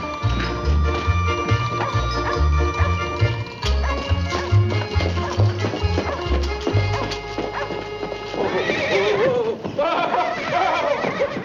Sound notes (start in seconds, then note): 3.6 dog barking; 10.3 horse neighing